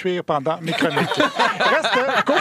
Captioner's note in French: rires